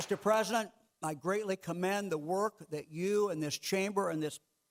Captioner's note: clapping